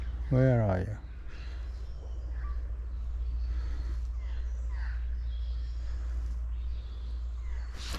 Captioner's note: birds chirping